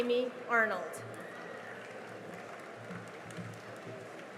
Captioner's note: cheering and applause